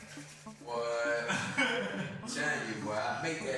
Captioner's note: laughs